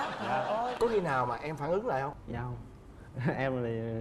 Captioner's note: laugh